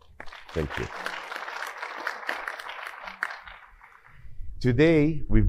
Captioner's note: audience applauding